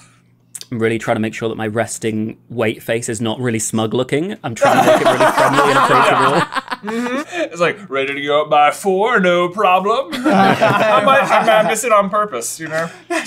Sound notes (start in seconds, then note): 4.6 laughter